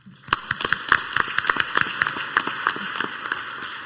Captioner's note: clapping